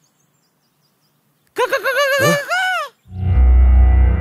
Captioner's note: Screaming